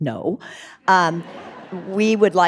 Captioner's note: audience laughing